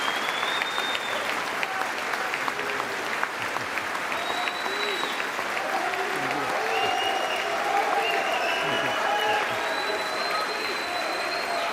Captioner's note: applause